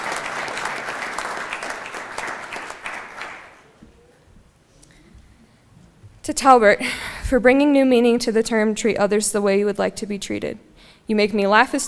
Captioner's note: applause